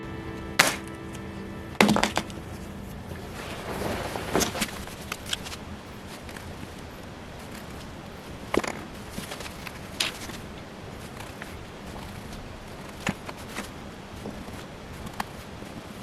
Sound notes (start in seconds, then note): 0.0 music ends; 0.4 thwap; 1.8 clunk; 3.6 fwump; 4.7 sped-up scuffling